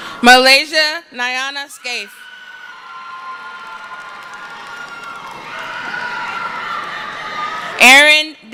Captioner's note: screaming